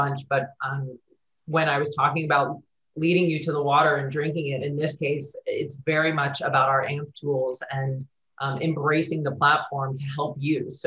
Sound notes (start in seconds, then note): none